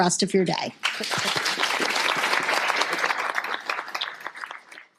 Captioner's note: applause